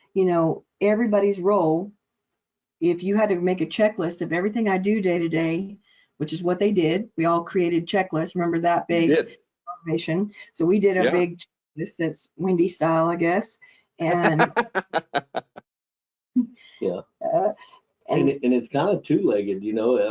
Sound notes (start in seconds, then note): 8.5 audio distortion; 14.1 laughing